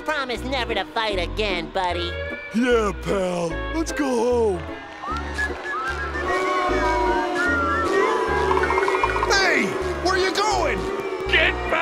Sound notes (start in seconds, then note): 2.6 Spongebob and Patrick whistlin; 4.8 crowd booing